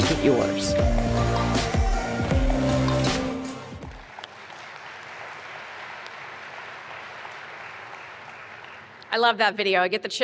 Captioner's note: applause